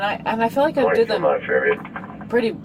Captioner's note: radio chatter